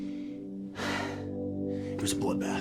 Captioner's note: sighs